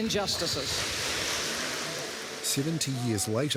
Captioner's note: applause